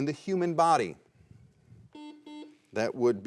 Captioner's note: buzzer rings